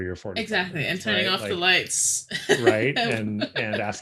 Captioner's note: laughs